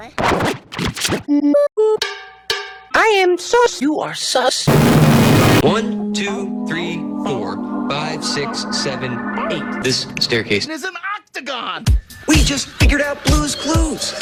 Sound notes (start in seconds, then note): 1.2 Sidetable Drawer sings first four notes of Megalovania; 1.2 cowbells